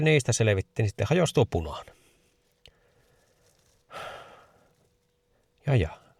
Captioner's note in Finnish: huokaus